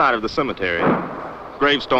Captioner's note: gun shot